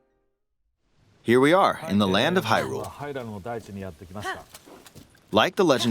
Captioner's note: in-game characters vocalizing throughout